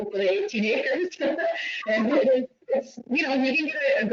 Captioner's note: giggles